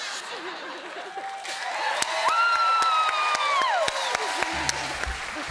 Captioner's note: cheers and applause